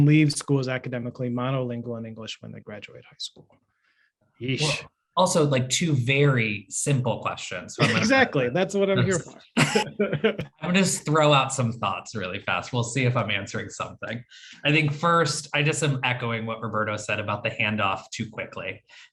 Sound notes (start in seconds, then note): 9.0 laugh